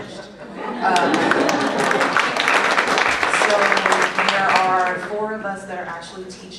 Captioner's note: applause